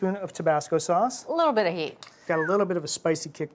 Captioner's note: whistles